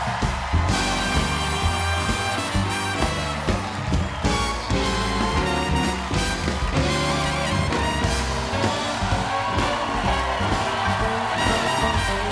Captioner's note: applause